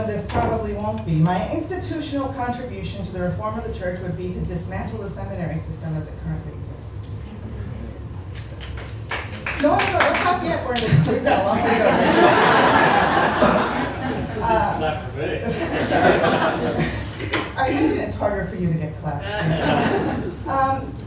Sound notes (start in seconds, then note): 8.4 applause; 11.4 laughter